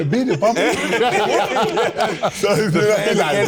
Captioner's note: more laughter